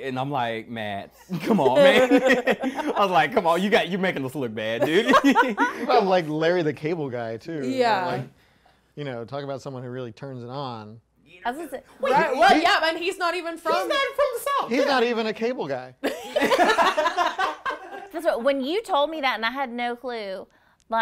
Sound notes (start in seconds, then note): 1.3 group laughing; 4.8 group laughing; 16.0 group laughing